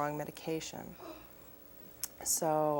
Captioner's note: audience member gasps loudly